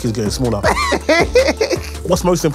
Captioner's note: laughter